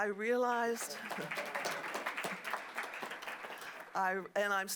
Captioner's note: applause